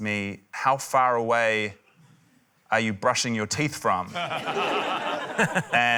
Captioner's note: laughter